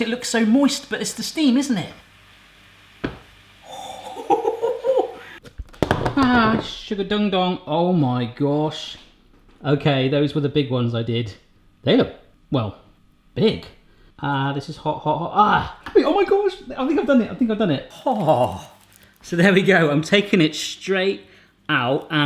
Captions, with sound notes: it looks so moist, but it's the steam, isn't it? (laughing) Ah, sugar ding dong. Oh my gosh. Okay, those were the big ones I did. They look, well, big. Ah, this is hot, hot, hot, ah, oh my gosh, I think I've done it, I think I've done it. Oh. So there we go, I've taken it straight out